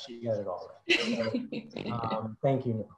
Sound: laughs

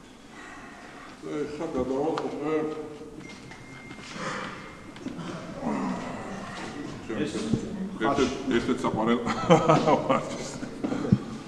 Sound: laughs confidently

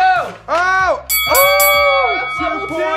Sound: bell ringing

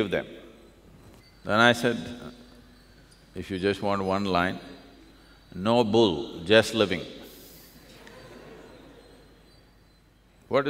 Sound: laughter

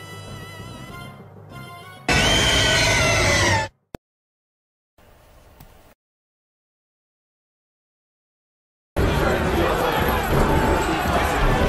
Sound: Primal Kyogre roar

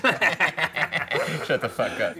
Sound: laughing

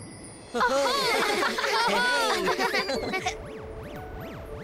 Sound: laughing

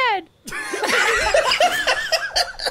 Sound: cast Laughing

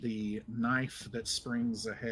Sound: none

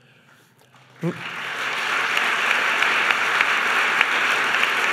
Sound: applause

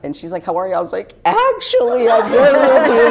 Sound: sobbing

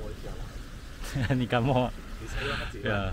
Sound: laughs

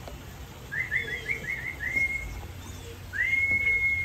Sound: guide whistling

